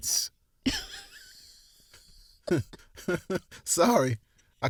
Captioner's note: both laugh